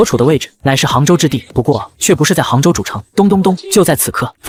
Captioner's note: knock knock knock